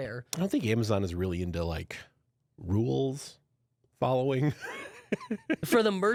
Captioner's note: laughs